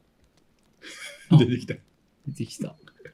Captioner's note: laughs